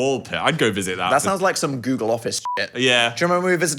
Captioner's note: beep